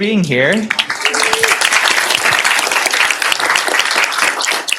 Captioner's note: applause